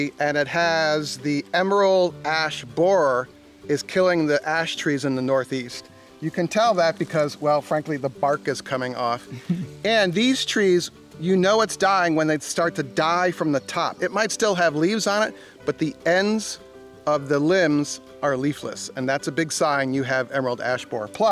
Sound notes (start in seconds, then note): 9.3 woman quietly laughing